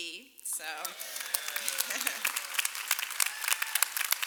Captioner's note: applause